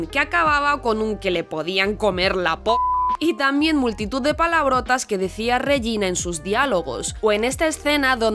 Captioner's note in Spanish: piii